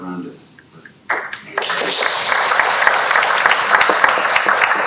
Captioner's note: audience clapping